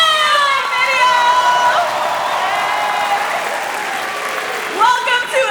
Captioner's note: cheering; applause